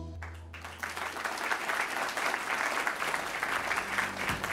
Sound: upbeat music ending; crowd applauding

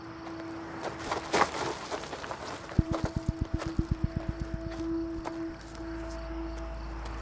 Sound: gravel crunching

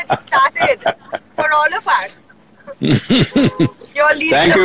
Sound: Sadhguru laughs

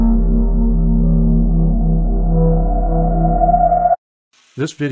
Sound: …Eerie sound!…

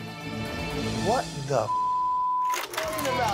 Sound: beep

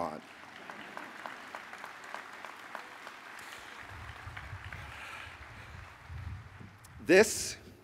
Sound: applause

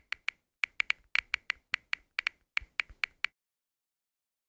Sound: keyboard clicking

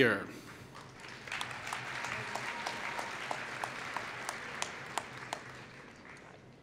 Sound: applause

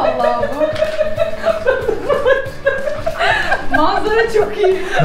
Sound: laughs

